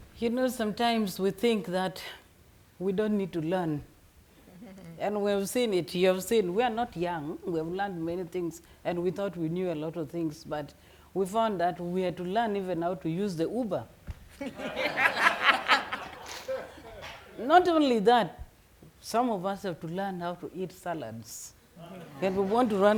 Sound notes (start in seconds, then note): 4.4 chuckling; 14.4 attendants laughing vigorously; 21.8 audience members laughing